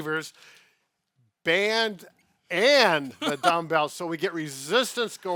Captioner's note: laughing